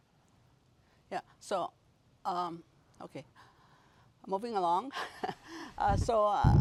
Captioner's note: Rires